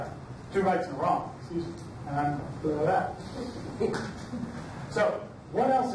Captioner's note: blathers